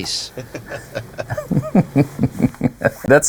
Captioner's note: chuckling